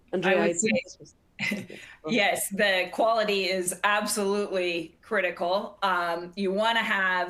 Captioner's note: chuckles